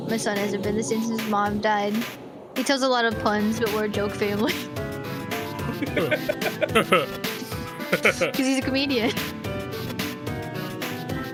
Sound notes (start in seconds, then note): 5.6 laugh